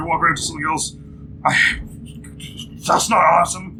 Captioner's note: anxious sputtering